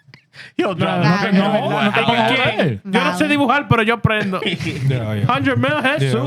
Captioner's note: speaking Spanish